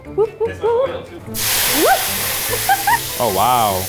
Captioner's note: wok sizzling; laughs